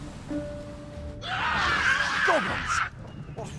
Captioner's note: goblins screeching